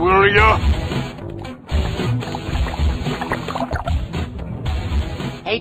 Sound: caramel bubbling

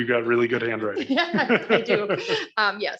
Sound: all laughing

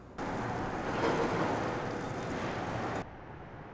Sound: sizzling

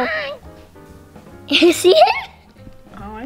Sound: laughing

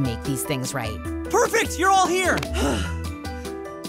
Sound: sighing

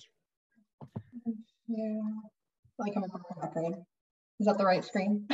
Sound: chattering

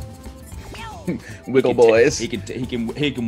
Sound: laugh

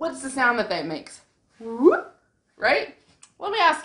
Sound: whoooop

